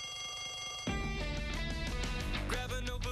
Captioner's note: bell rings